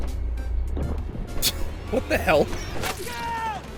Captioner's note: scoff